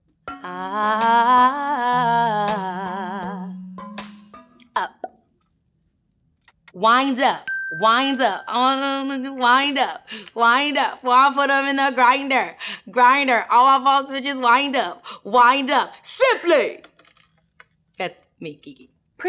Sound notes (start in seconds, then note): 7.4 ping